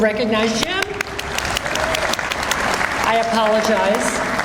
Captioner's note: audience applauds